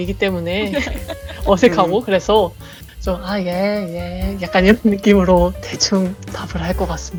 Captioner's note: laugh